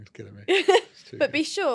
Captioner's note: laughs